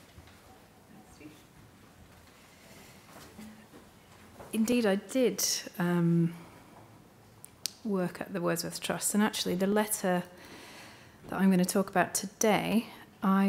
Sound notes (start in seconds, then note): none